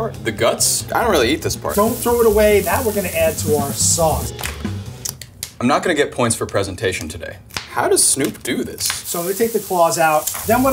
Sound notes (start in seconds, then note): 5.0 shell cracks